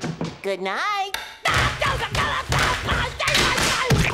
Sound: screaming

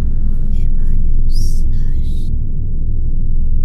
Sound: whispers

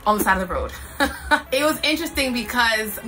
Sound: laughs

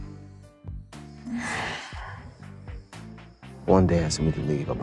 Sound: sighs

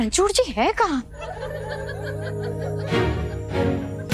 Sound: laughter

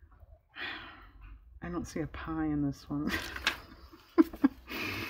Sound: laughs

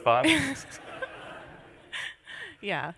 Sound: laughter

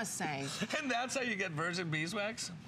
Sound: laughter

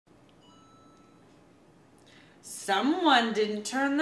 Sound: phone beeps softly

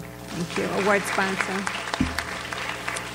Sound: audience applauds

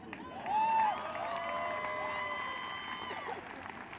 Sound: applause

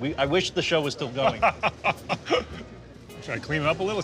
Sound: laughs

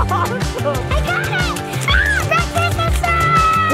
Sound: laughs; screams

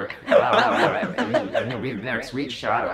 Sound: pat

